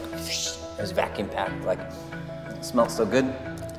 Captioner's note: mimics Air Hissing; sniffs